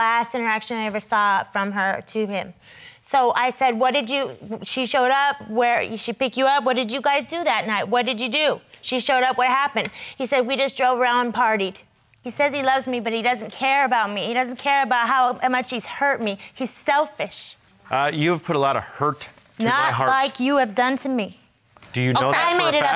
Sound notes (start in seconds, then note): none